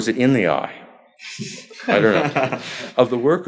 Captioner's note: laughter